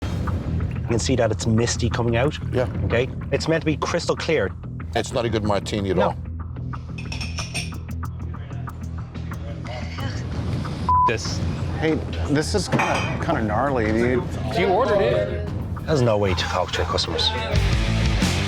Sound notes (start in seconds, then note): 6.9 glasses clink; 10.8 beep